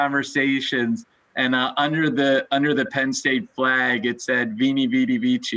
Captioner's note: foreign language